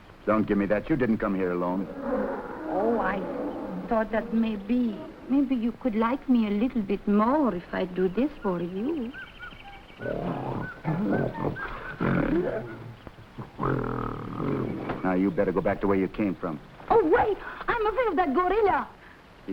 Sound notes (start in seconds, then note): 1.4 gorillas groaning; 9.2 animals chattering; 10.0 gorilla grunting